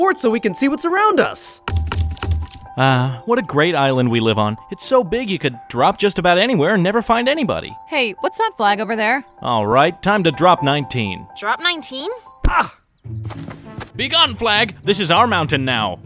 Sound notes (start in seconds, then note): 1.7 wood thudding; 12.2 Tanner thuds